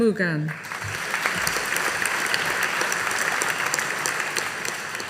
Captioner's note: audience applauding